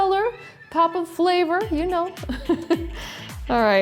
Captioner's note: laughs